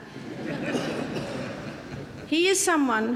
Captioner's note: audience laughs